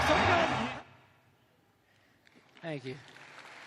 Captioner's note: applause